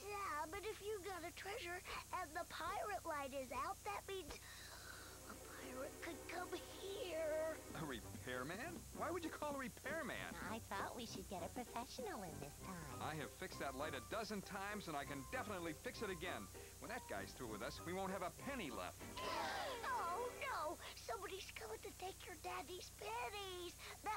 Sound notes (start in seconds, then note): 19.2 all gasping